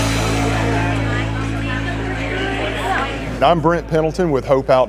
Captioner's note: background talking